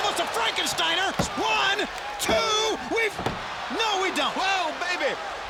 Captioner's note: hand banging